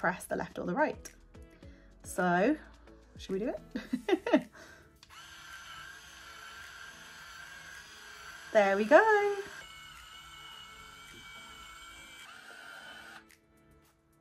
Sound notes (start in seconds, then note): 3.7 laughing; 5.0 curler whirring